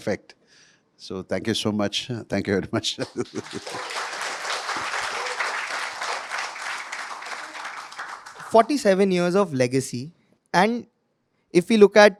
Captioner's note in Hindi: तालियाँ